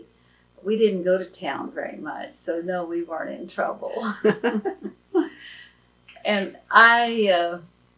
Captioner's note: laughs